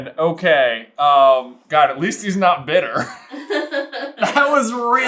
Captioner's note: laughing